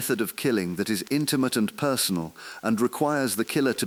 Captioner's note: exhale